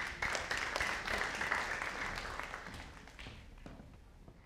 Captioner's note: audience applauding